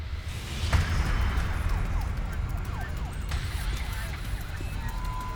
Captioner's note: sirens blaring